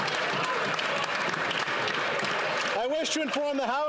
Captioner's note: applause and Cheering